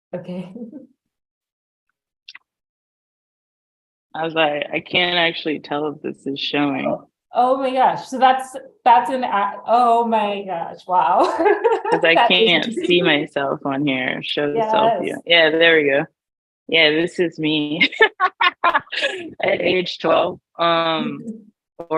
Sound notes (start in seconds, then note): 11.2 laughs